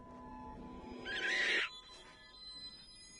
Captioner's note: monstrous squawk